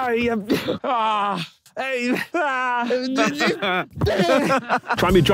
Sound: Harry and Tobi groaning

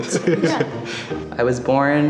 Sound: chuckling

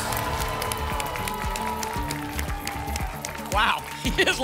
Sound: applause and cheering

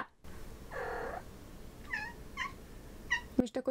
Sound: something in cat language

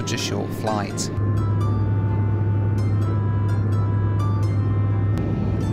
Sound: plane engine roaring

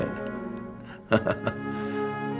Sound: laughs

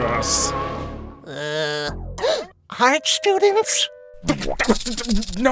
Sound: gasp

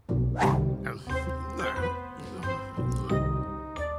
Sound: eating sounds

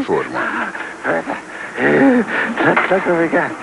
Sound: panting

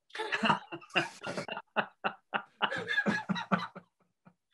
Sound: they all laugh

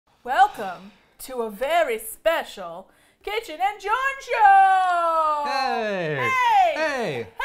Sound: sighs

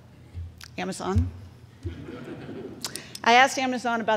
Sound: crowd chuckles

